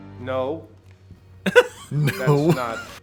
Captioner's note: laughs